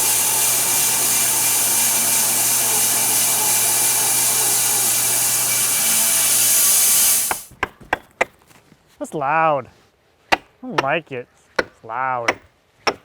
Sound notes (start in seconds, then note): 7.3 hammer thunking